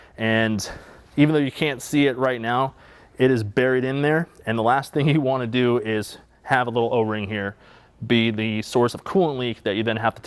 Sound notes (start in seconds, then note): none